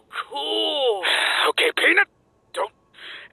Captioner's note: sigh